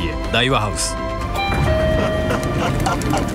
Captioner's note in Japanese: ピンポーン